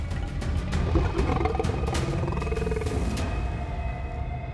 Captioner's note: growling